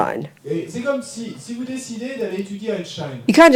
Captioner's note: audience member speaks in French